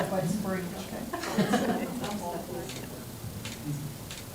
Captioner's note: crowd talking indistinctly